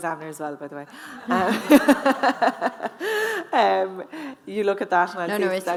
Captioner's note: audience laughing; laughing